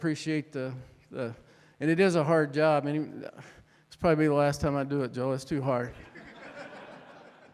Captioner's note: audience Laughter